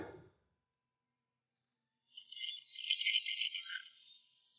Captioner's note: radio crackles